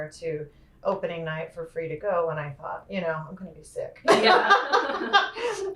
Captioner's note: laughter